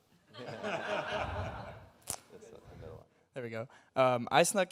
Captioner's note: audience laughs